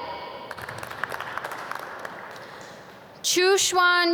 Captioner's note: audience clap